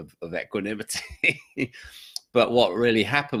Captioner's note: laughs